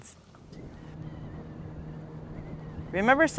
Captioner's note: boat engine humming